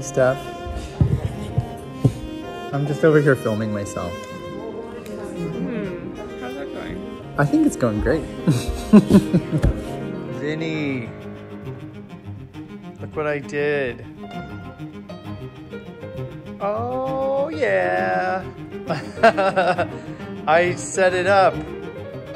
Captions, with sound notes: - Hi Steph, I'm just over here filming myself. (upbeat music) - How is that going? - I think it's going great (laughs). - Vinny! Look at what I did! (gentle piano music) - Oh, yeah (laughs). I set it up. Woo!